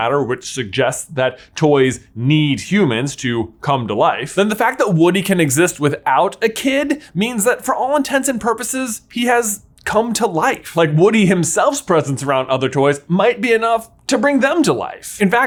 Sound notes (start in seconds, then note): none